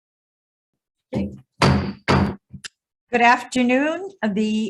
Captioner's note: chair sounds gavel